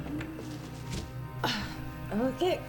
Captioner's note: VCR clicks; VCR whirs; grunts